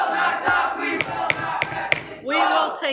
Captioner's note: gavel taps